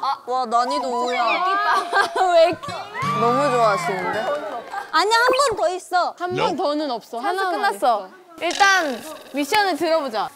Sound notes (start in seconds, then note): 2.6 the staff are cheering!